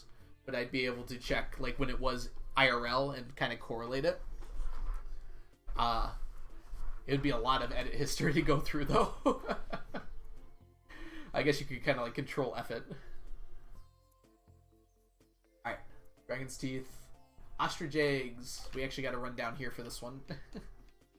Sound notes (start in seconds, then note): 8.9 laughs; 20.2 chuckles